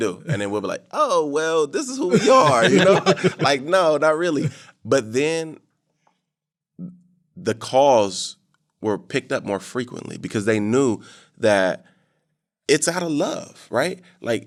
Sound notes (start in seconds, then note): 2.0 all laughing